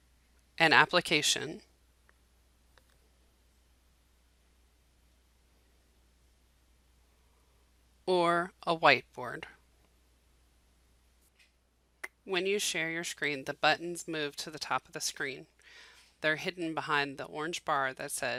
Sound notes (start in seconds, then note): 11.3 silence